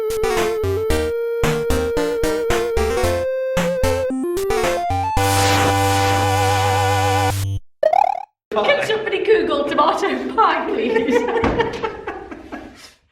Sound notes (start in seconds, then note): 7.8 Mario Noise